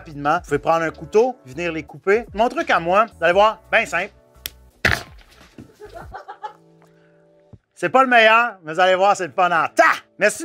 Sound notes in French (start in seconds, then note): 5.6 rires